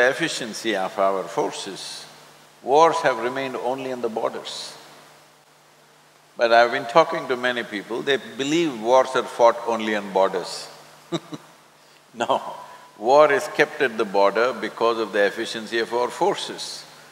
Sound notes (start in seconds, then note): 11.1 laughs